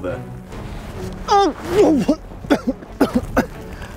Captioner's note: coughs and Slips